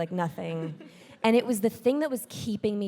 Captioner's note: audience laughing